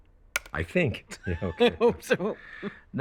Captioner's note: laughs